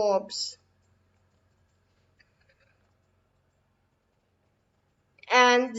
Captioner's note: long silence